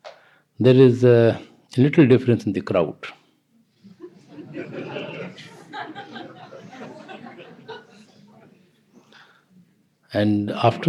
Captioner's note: laughter